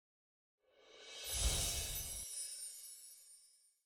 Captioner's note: chimes jingling